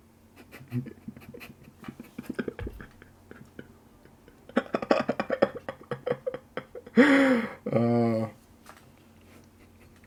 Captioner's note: laughter